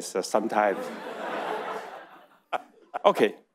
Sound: audience laughing

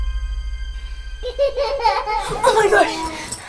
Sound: laughing

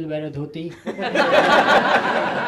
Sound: laughter

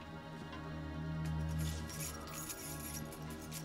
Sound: keys jingling

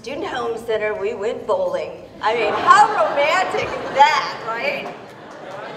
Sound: laughter; laughter continues with applause

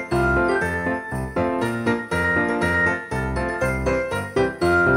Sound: none

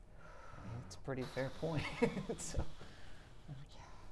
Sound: chuckles

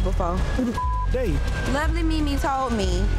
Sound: beep

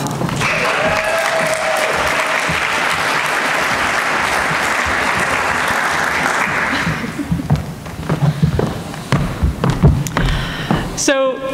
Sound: applause

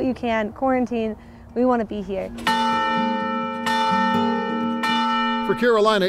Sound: bells ringing

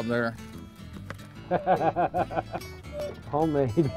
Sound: laughter

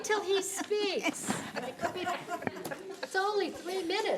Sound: audience laughing

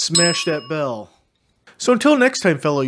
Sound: smashes his smiley bell

